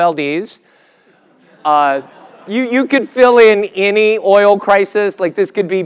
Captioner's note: laugh